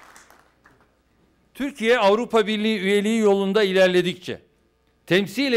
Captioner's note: non-english speech